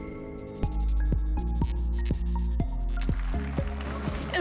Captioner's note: applause and cheers